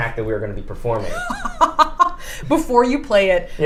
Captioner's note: laughs